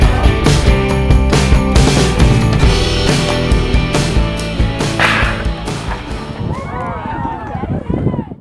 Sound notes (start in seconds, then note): 5.8 crowd cheering